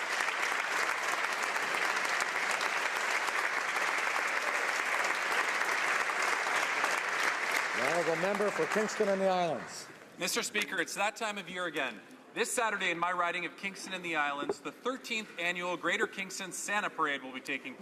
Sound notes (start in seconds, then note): 1.5 some Applause